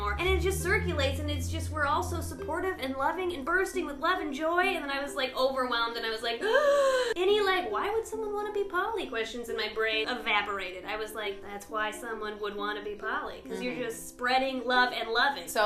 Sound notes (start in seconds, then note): 6.5 gasp